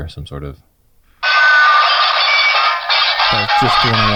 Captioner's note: dishes clanging